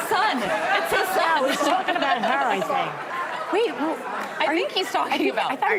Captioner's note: laughter